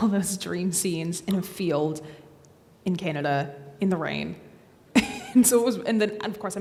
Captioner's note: laughs